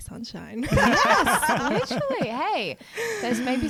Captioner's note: laughing together